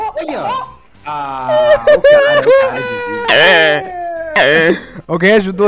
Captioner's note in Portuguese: risos